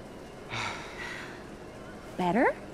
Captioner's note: sighs